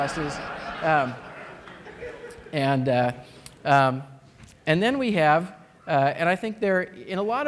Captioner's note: laughter